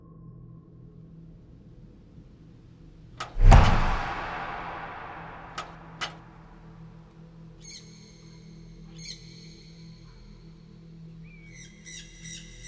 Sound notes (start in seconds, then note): 3.3 percussive note striking; 8.0 birds calling